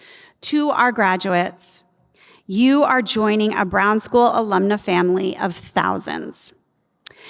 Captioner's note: none